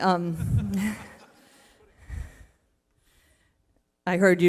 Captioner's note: laughter